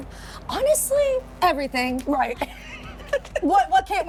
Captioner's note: laughs